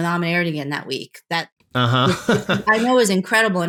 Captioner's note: laughter